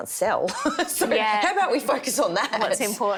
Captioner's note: laughing